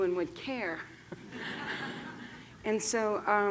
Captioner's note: laughter